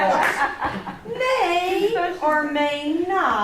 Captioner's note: group laughs